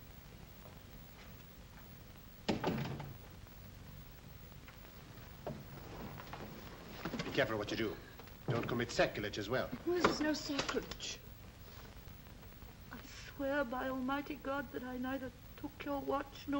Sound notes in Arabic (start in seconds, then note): 2.4 يغلق الباب